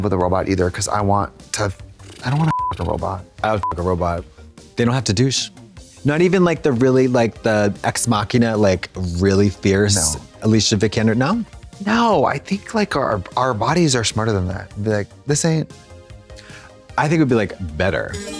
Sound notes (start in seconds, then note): 2.4 beep